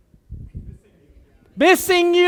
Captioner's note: background cheering